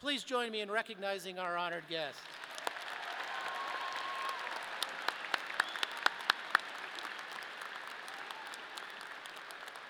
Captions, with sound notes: Please join me in recognizing our honored guests. (audience applauding)